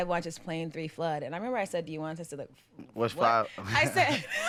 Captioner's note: laughing